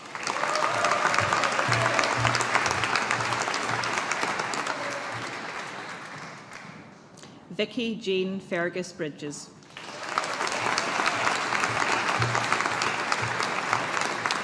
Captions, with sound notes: (AUDIENCE APPLAUDING) Vicki Jayne Fergus-Bridges. (AUDIENCE APPLAUDING)